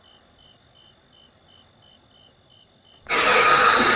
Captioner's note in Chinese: 音效性突發驚嚇